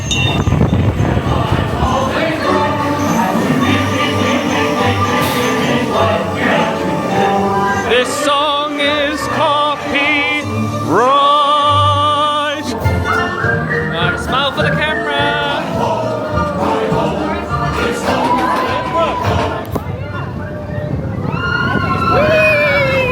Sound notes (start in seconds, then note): 20.4 dwarves whistle